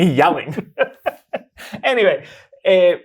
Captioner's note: guy laughing